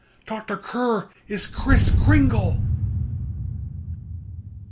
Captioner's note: dramatic Thump Noise is heard